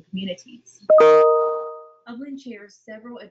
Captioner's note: notification pinging